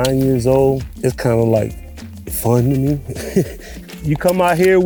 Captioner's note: laughs